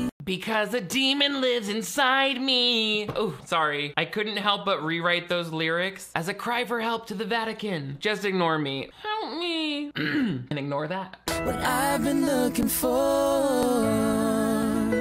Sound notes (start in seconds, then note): 8.9 in high-pitched voice; 9.9 clears throat; 14.8 gentle music